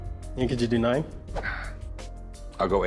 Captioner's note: rick sighs